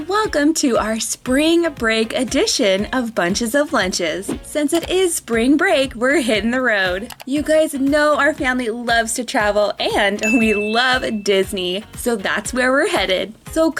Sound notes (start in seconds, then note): 10.2 bell dings